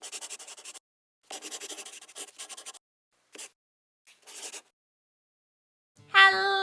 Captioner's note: the sound of a pen scratching